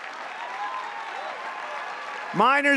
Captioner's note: applause